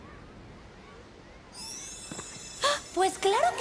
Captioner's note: chimes